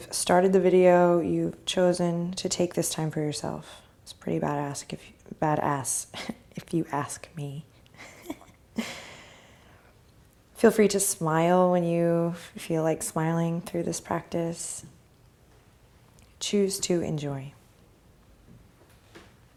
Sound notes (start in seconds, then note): 8.0 laugh